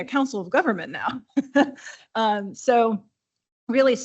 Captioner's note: chuckling